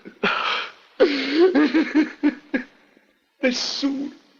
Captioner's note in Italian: piange